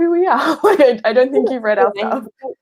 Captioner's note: laughing